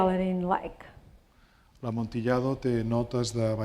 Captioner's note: speaking spanish